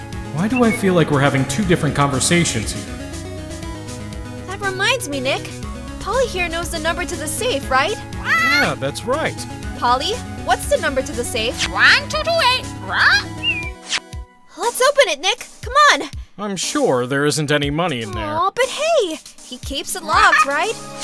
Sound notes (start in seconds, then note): 12.9 squawk, whistle